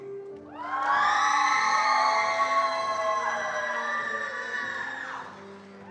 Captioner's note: attendees cheering and applauding